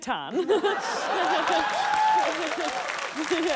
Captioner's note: laughter, applause